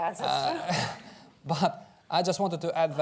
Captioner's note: laughs